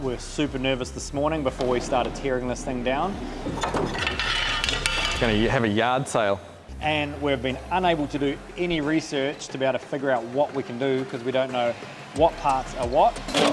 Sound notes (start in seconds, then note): 2.9 metal clangs